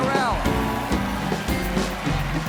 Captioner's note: applause